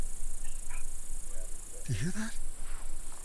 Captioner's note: insects chirping